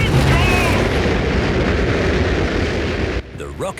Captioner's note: rockets blasting